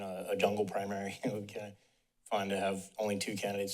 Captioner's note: giggle